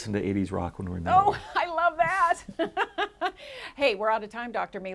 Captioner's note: laughs